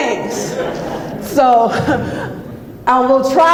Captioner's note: audience laughs